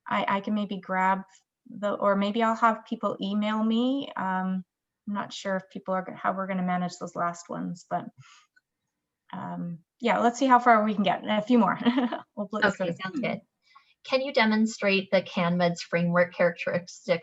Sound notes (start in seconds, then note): 11.8 chuckles